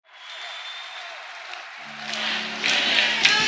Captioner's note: crowd chanting